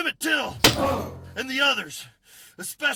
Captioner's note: thud